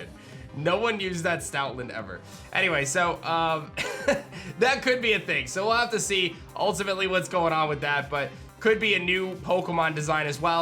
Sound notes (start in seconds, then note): 3.8 laughs